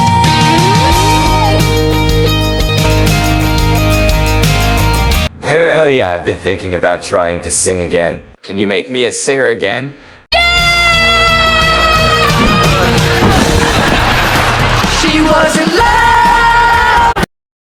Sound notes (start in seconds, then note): 12.4 thuds; 12.6 groans